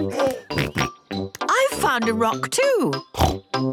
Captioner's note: giggling and snorting; snorting